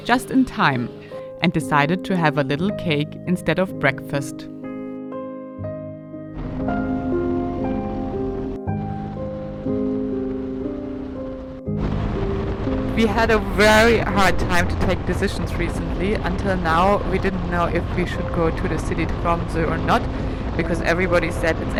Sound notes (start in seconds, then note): 6.6 engine rumbling; 6.6 light music